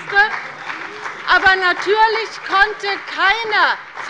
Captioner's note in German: Beifall bei dem BÜNDNIS 90/DIE GRÜNEN und bei Abgeordneten der SPD